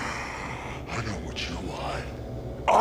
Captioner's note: distorted voice